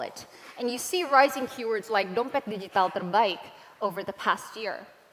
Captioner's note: non-english